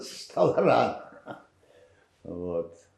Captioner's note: laughing